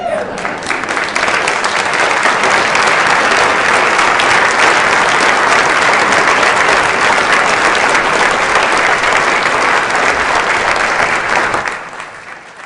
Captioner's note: applause